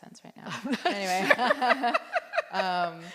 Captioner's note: laughter